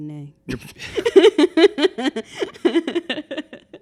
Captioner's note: laughing